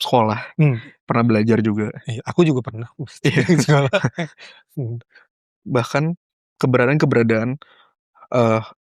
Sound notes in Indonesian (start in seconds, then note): 2.9 tertawa